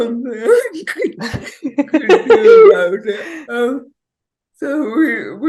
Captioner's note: both laughing